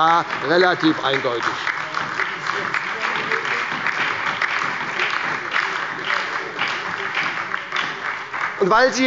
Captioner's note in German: Beifall bei der SPD, der LINKEN und der FDP